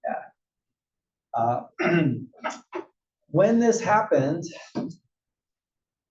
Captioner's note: cough